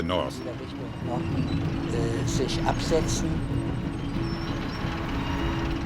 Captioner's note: tank engines whirring